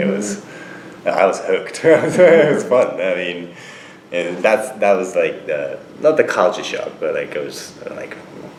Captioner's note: laughs